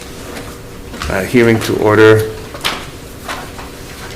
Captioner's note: papers flipping